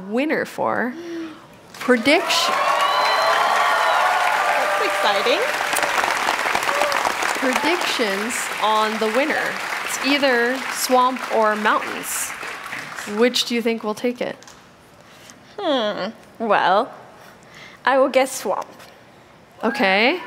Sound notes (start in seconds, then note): 5.6 cheering; 6.9 applause